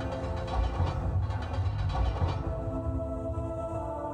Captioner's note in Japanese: 何かの音：ガラガラガラ